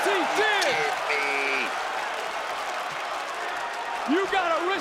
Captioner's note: audience cheering